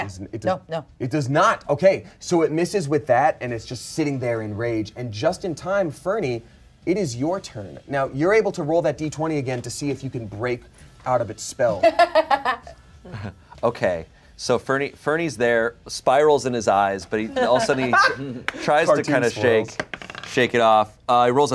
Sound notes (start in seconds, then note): 11.8 laughs